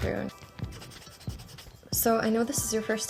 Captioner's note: eraser rustling